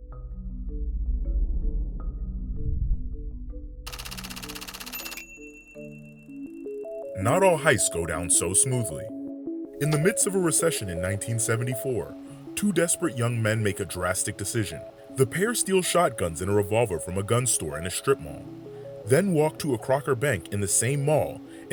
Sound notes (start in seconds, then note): 0.0 tense music; 3.8 typewriter clacking